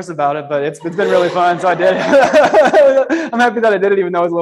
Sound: laughs

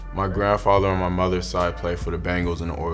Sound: none

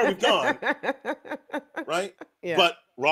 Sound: laughs

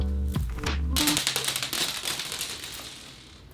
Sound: sounds of beads tumbling onto the floor

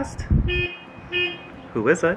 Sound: car horn honks

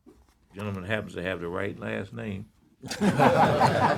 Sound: laughter

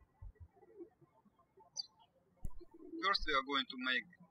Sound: birds chirping

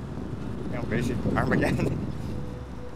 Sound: chuckling

